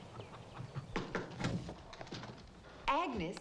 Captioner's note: door knocks